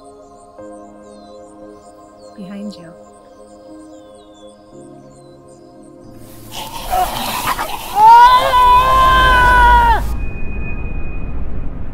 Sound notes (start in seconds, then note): 6.4 zombies yelling; 6.8 Ryan Screams